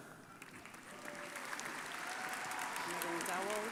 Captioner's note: crowd applauding